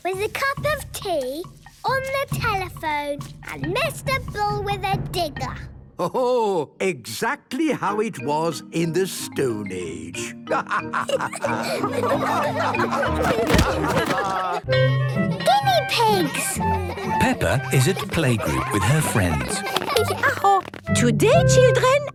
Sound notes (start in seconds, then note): 10.7 all laughing